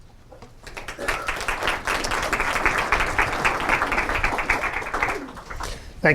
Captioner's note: applause